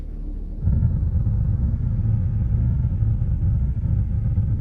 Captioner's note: spacecraft rumbling